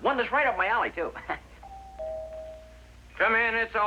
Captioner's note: doorbell Rings